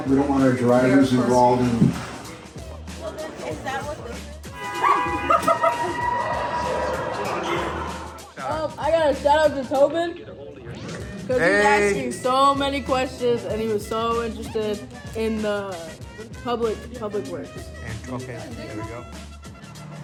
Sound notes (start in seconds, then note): 4.5 bus hooting; 4.6 people laughing; 19.8 upbeat music